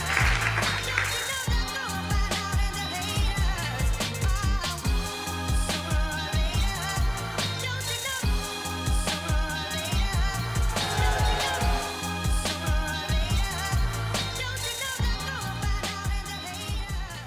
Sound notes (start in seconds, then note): 0.0 applauding; 0.3 R&B music; 10.6 crowd cheers; 12.3 R&B music